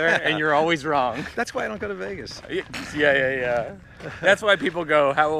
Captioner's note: laughs